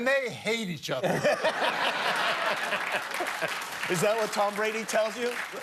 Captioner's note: laughter